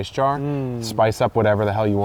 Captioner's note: hums